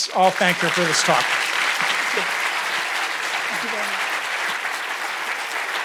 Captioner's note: audience applauds